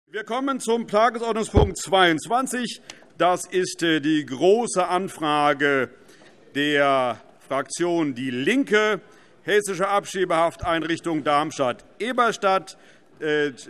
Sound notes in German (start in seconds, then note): none